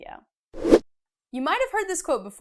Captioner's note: frame whooshes